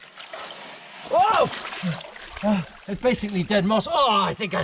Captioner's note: gasping